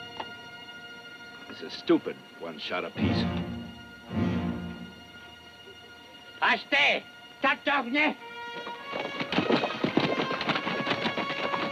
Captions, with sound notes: - This is stupid, one shot apiece. (Delgadito speaking foreign language) (dramatic music)